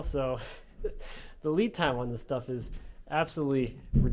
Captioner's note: none